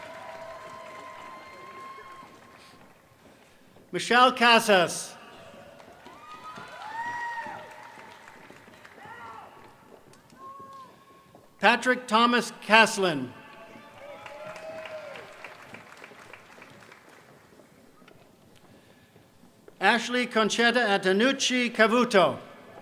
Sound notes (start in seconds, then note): 11.3 applause